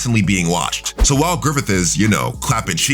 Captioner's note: air whooshing